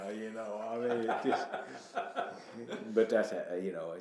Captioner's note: laughing